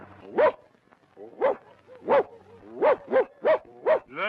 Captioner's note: dog barking